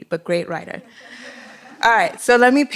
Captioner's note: laughter